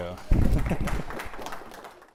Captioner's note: applause